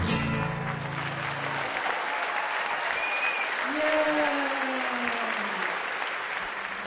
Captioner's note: applause